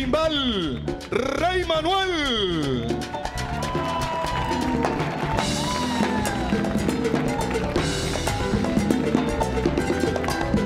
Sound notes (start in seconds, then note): 0.2 MC speaking in Spanish; 2.9 audience cheering; 7.4 festive Cuban music